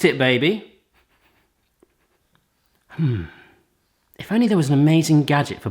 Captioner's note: sniffing sound